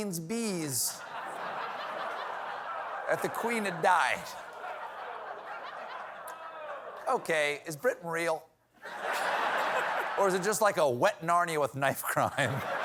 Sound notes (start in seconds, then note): 4.5 laughter